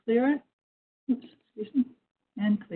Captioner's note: speaking faintly